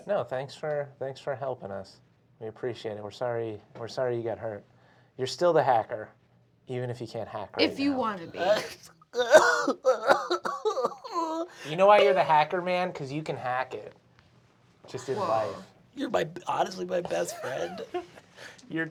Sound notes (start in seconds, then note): 9.1 imitates sobbing; 16.2 nasally